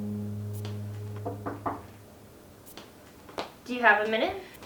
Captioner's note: Nancy knocks